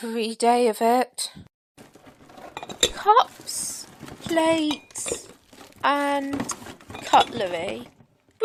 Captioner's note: rummaging through a box